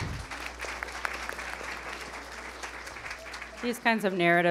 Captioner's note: attendees applauding